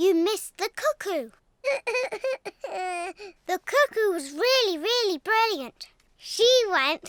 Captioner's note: sobs